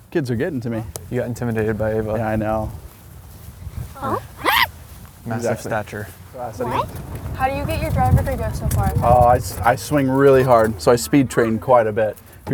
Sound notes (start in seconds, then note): 4.3 screams